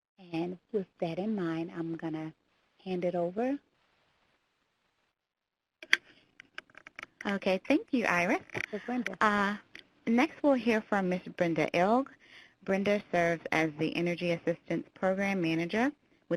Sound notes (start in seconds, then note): 6.4 keyboard clicking